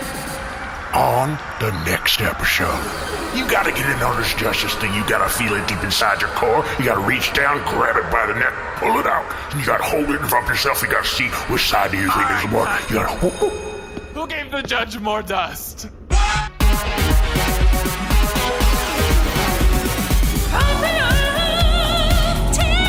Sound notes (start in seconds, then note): 0.0 music cuts out, crowd noise continues; 2.3 laser sounds; 12.9 sound stage bell cuts off the judge